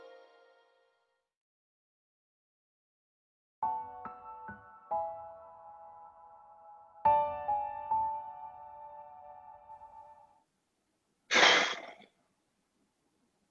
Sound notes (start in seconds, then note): 3.6 soft piano music; 11.4 sighs